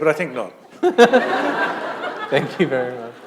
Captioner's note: laughter